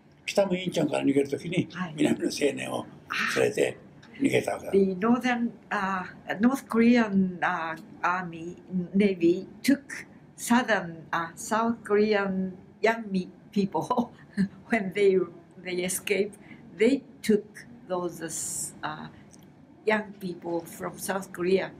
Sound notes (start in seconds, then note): 0.1 foreign language